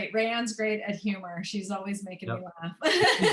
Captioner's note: laughter